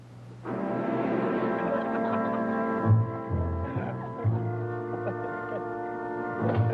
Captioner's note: playful music; all laughing